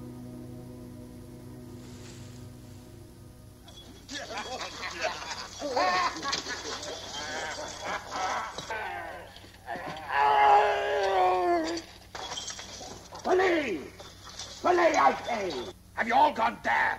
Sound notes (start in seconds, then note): 3.7 laughing; 9.6 groaning